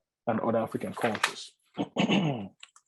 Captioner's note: clears throat